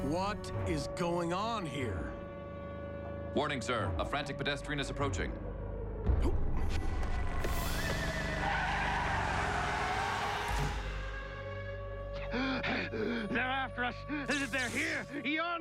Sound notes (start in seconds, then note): 6.3 grunts; 8.6 tires screech; 10.2 air-raid siren wailing